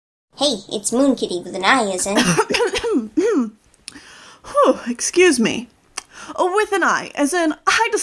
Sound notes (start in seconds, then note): 2.1 coughing